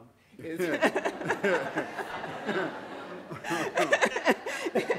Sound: audience laughing

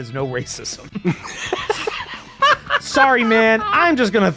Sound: laughs

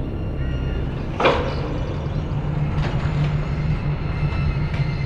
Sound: metal door clunks

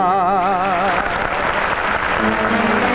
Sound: audience applauding; upbeat music

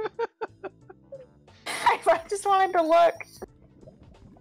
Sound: laughing

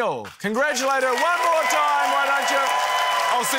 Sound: cheering, applause

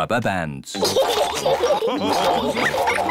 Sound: all laugh

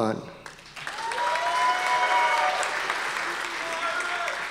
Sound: audience applause

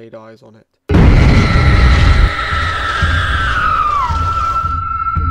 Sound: ghostly shriek

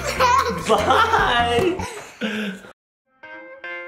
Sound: laughing

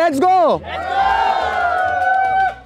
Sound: cheering

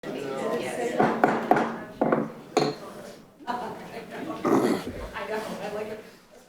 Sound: people chattering; gavel knocking

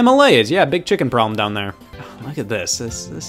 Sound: sighs

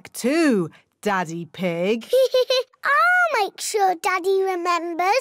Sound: laughs

